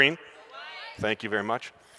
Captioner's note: audience calls out